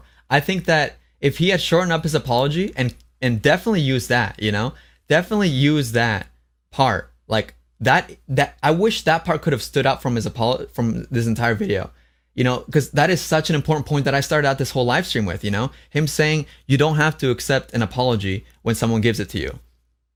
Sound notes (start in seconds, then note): none